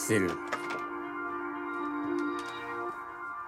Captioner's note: rattling